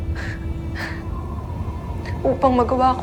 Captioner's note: wind howling